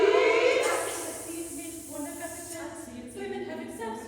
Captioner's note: lower voices continue swoop; lower voices hiss